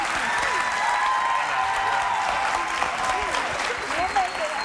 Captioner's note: cheering drowns out